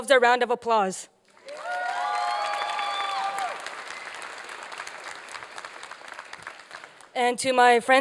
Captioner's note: applause and cheering